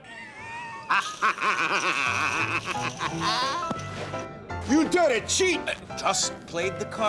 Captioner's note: <i> cackling</i>